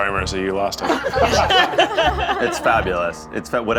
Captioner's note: all laughing